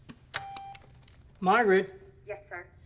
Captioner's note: beep